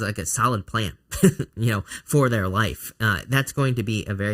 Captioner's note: chuckling